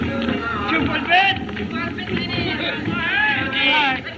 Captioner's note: man Shouting In Native Language